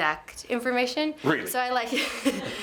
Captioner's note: laughing